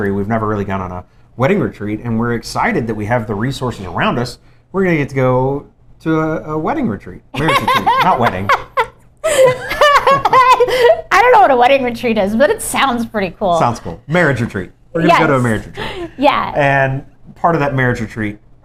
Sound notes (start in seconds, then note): 9.2 laughter